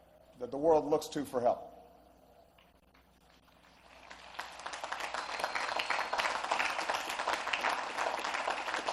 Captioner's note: applause